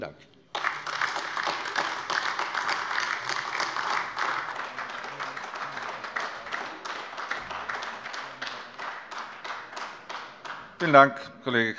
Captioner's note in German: Beifall AfD